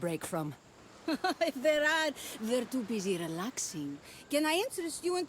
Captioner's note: laughs